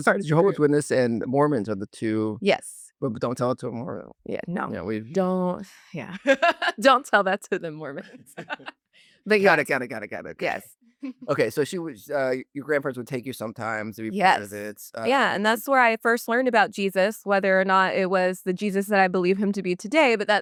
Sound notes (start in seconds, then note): 6.0 laughs